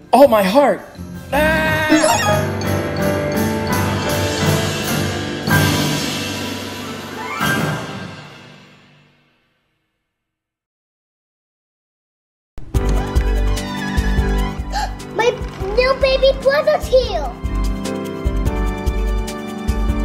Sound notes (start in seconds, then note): 1.9 magic sound; 2.9 music swells; 12.9 gentle music; 15.4 gasps